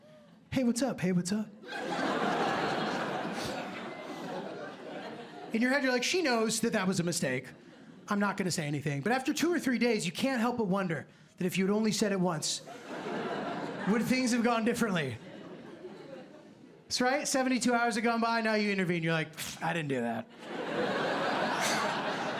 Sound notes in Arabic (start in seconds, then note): 1.6 ضحك